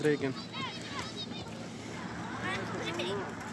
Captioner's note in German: Kinderstimmen im Hintergrund